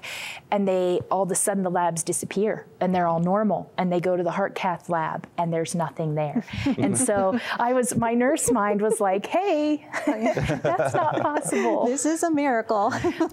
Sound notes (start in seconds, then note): 6.6 laughter; 12.9 giggling